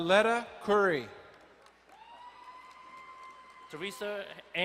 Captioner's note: crowd cheering and applauding